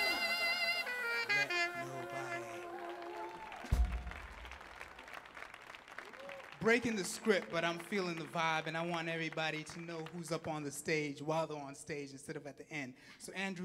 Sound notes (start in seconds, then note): 0.0 saxophone playing; 3.2 audience clapping and cheering